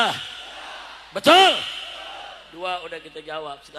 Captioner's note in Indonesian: berteriak